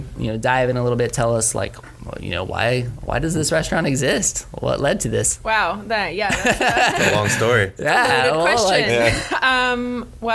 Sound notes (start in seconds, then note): 6.3 laughs